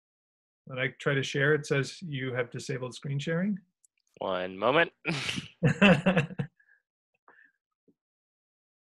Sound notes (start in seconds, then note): 5.1 both laugh